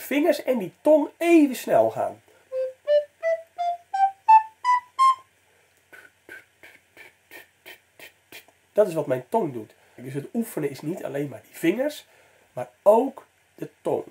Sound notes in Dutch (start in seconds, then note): 2.5 Blaasgeluid